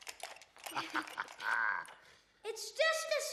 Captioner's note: chuckles